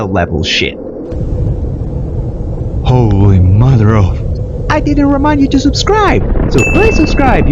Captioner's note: nuke Explodes